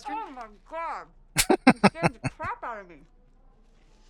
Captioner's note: chuckling